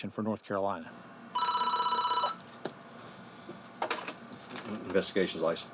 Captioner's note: phone ringing